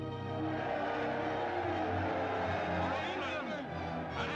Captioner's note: people cheering